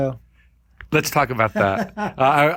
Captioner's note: laughing